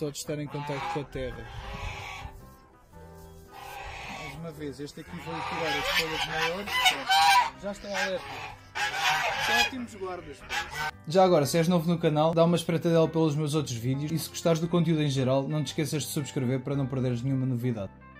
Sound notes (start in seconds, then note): 5.0 goose quacks loudly